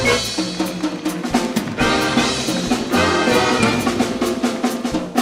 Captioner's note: audience applauding